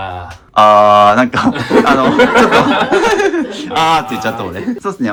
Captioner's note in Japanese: 笑い